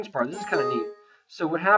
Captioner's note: warning window chimes